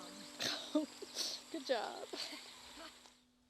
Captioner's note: laughing